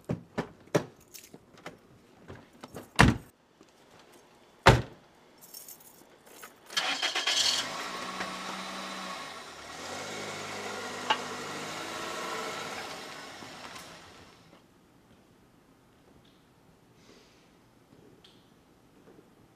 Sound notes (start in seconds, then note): 4.7 door thuds; 6.8 engine puttering